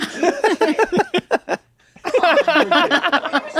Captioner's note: they laugh